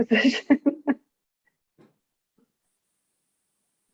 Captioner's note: laughing